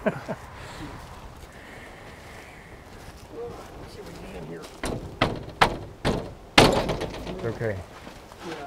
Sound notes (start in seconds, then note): 4.7 banging on door